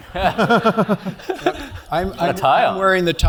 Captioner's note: laugh